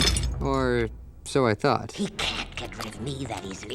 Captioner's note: smashes